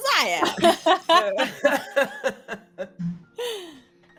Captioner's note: all laughing